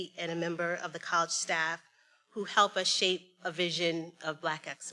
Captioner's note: none